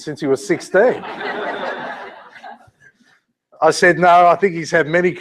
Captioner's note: laugh